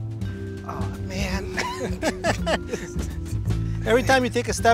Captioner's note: laughing